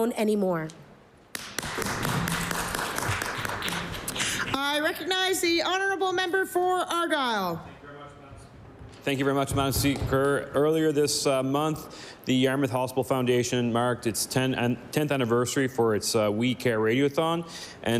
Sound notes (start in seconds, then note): 4.1 applause